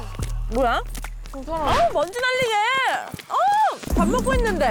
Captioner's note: sound effect: dust kicks up; sound effect: wiping sweat